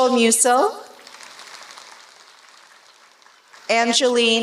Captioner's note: applause